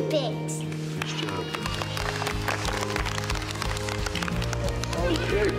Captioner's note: clapping